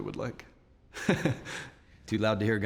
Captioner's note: chuckles